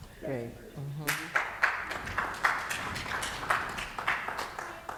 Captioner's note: applause